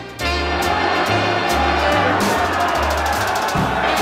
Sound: crowd cheering

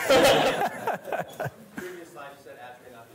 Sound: laughter

